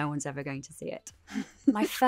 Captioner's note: laughter